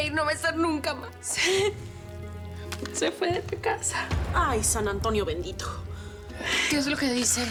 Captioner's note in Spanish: Sollozos